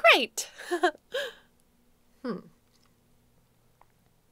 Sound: laughing

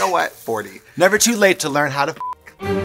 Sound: beep

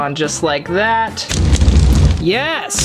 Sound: fire crackles

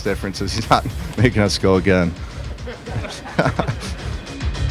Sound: laughs

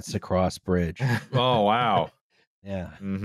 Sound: laughs

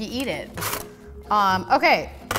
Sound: scraping

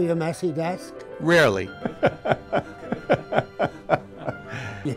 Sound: laughing

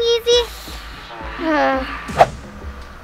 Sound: groans; air whooshes

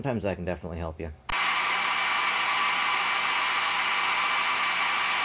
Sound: dryer whirring

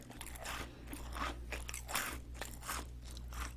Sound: crunch crunch

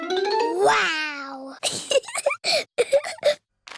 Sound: giggles

